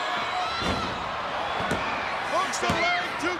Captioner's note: bodies thud